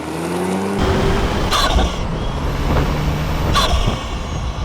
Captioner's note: turbo inlet induction sounds